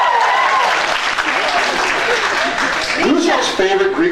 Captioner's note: cheers, applauds; applauds